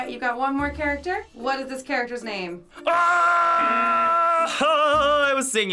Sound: yelling

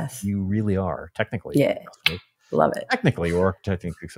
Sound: clicks tongue

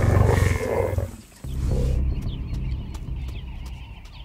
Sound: lion growls

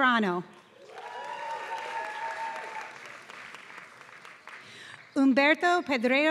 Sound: applause

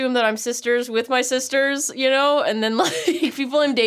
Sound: laughs

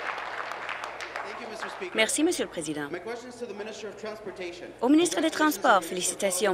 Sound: applause

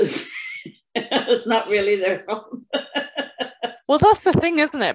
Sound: laughs

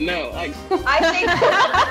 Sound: all laughing

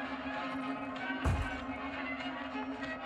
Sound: thud

